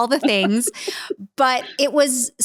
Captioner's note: laughs